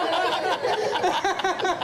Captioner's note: all laughing